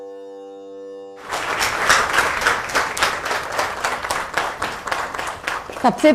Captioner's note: claps